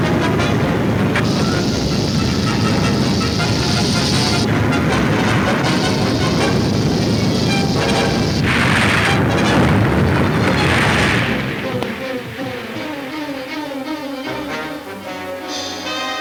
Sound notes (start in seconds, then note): 0.1 exciting orchestra music; 8.1 crashing